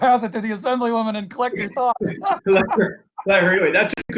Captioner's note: laughs